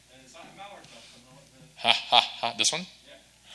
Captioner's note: speaks faintly